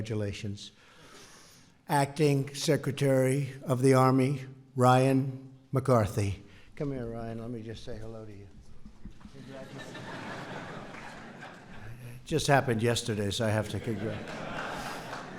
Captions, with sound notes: And congratulations. Acting Secretary of the Army Ryan McCarthy. Come here, Ryan. Let me just say hello to you. (laughter) Congratulations. Just happened yesterday, so I have to congratulate.